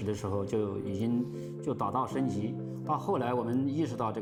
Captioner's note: speaking Chinese